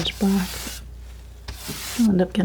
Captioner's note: scratching